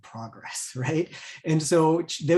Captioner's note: chuckles